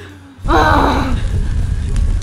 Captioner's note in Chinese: 怒吼